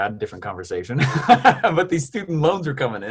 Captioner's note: laughs